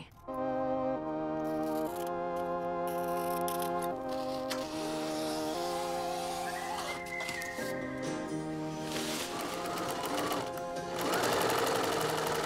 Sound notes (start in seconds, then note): 0.6 intriguing music; 4.1 nylon rips; 8.9 sewing machine pulses